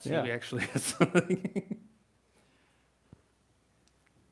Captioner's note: laughs